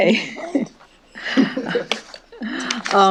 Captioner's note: chuckling